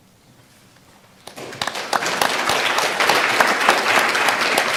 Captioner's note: audience applause